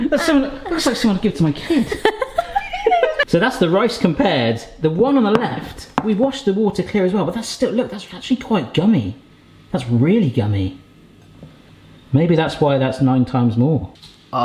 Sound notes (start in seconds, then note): 1.6 laughing; 5.5 bowls clanking